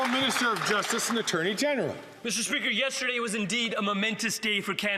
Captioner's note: some Applause